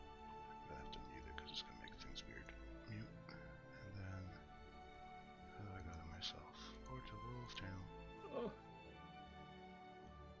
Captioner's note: yawns